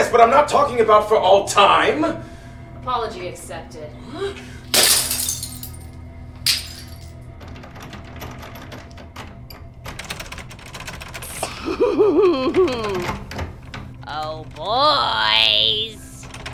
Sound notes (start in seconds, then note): 4.7 glass shatters; 7.3 door rattling; 11.2 laughing